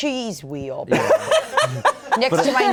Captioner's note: all laughing